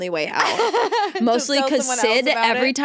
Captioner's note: laughing